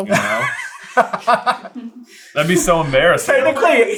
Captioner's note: laughing